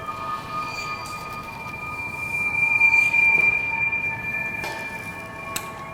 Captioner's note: high pitched humming frequency